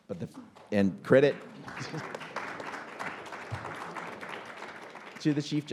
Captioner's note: audience applauding